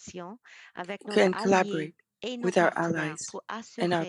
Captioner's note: speaking French